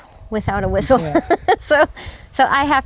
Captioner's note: laughs